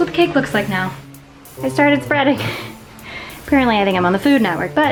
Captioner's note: laughs